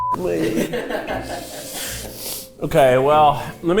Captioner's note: cast laughing